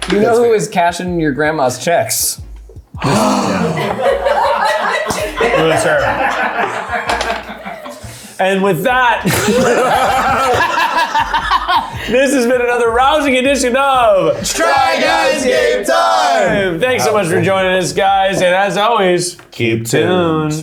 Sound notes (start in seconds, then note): 3.0 people laughing; 9.2 everyone laughing